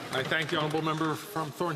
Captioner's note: some Applause